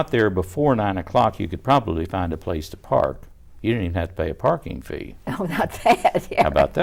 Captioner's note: laughter